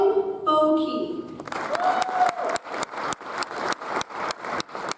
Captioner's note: audience applauds